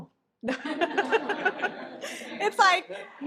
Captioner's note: all laugh